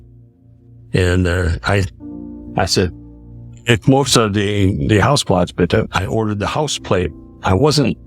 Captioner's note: speaking German